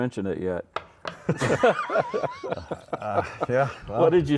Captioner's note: laugh